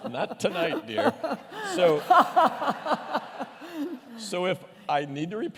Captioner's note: laughter